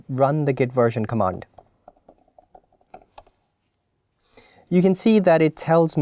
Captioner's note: keyboard clicking